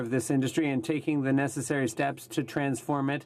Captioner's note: speaking French